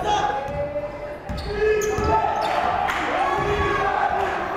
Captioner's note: yelling